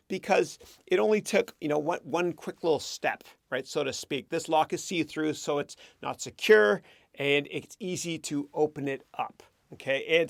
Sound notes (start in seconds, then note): none